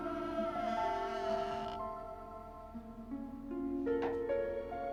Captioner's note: door creaking; gentle music